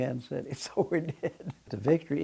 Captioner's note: laughs